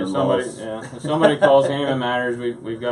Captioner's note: laughs